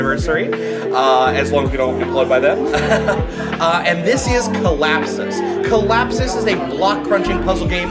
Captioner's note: laughs